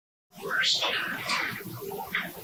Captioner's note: eerie voice